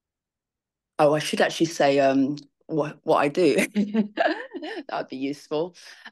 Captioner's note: laughs